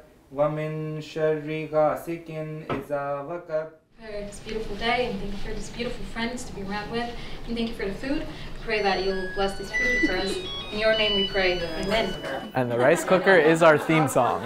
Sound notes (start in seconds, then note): 8.6 chimes in background; 14.2 laughter